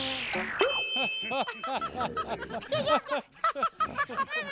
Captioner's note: laughing